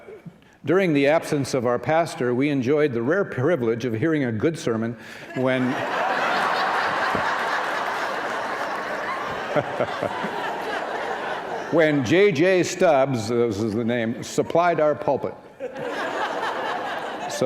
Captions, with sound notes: During the absence of our pastor, we enjoyed the rare privilege of hearing a good sermon —[laughter]—when JJ Stubbs, this is the name, supplied our pulpit.